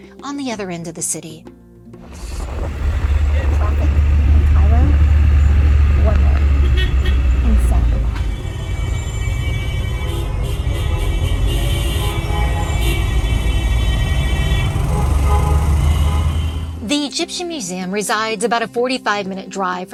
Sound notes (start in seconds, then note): 9.2 horns honking, engines revving